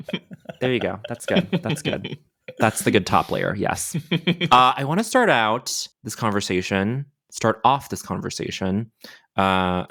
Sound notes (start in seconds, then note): 3.4 charles laughing